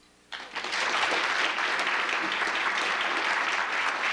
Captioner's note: applause